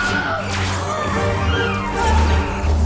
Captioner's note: yells; light saber hissing; phasers firing; groaning and yelling